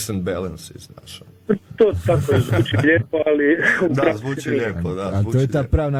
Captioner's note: laughter